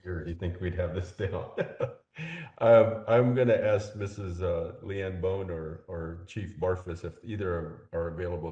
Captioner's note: laugh